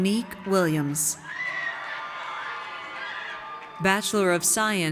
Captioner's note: audience cheers